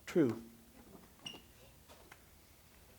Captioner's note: sneaker scuff, shuffling